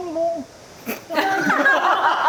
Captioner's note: chuckle